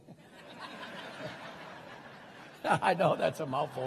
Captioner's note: crowd laughing